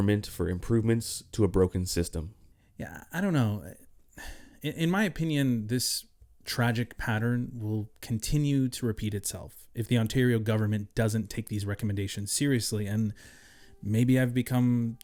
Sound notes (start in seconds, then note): 4.2 sighing